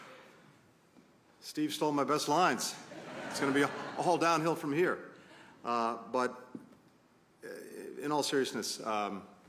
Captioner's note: laughter